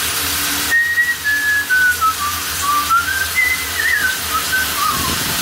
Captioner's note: whistling